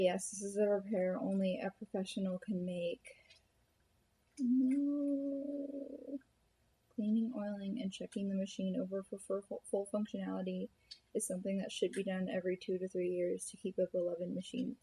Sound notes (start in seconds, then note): 8.8 stammers